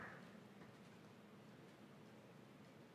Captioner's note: none